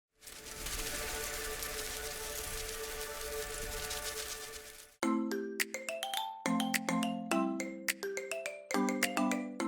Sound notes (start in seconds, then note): 0.0 butterflies Fluttering; 5.0 peppy Music